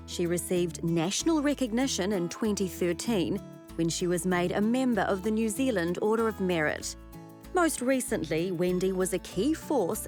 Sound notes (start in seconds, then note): none